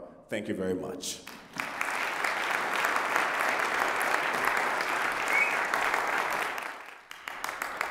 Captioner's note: applause